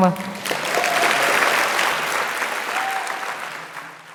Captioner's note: audience applauds